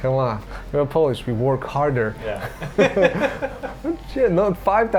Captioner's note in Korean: 웃음